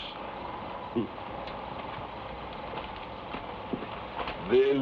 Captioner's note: Magno chuckles